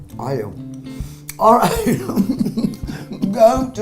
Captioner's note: laughing